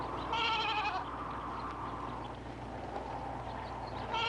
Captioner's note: goats bleating